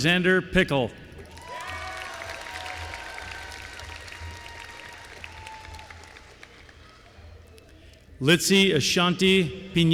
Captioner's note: applause